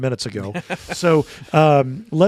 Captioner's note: panelists laughing